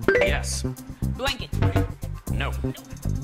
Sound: bell chimes; short beep

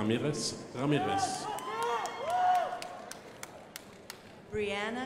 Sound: crowd applauding

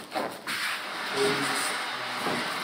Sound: droning

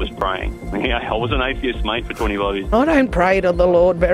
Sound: laughs

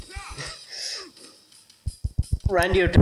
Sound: laughs

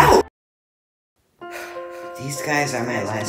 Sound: exhales

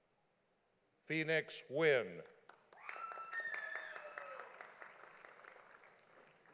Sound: audience applauding

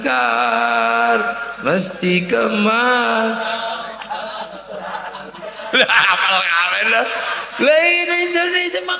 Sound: laughs

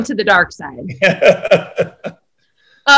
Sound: John laughing

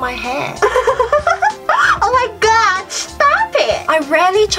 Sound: giggles

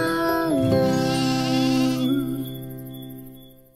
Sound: sheep bleats

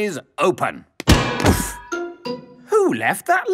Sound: thuds

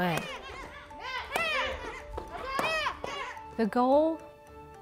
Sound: kids yelling

